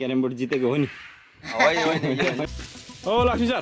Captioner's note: laughter